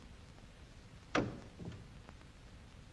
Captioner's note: door closes